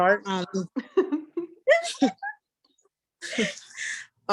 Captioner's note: laughs